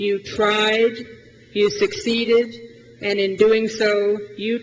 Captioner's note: none